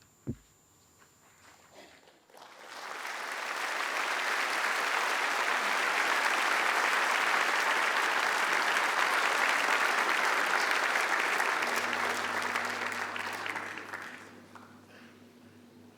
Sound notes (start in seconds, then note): 2.2 applause